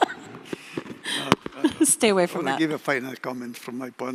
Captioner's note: chuckles